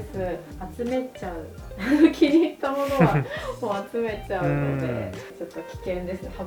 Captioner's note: laughs